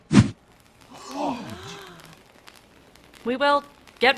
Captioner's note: gasping